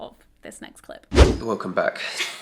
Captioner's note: whooshing sound